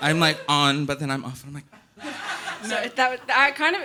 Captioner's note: audience laughing